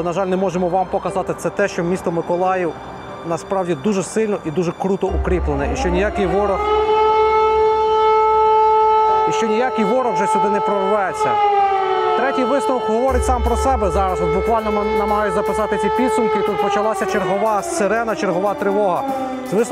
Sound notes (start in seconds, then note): 7.0 air alarm sound